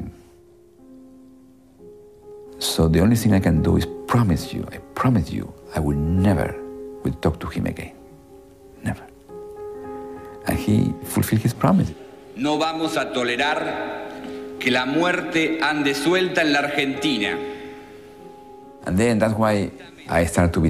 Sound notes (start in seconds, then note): 12.2 speaking Spanish